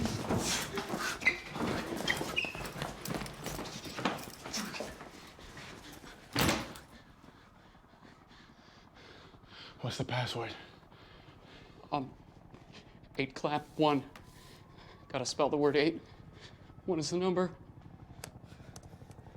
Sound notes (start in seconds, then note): 7.1 Michael panting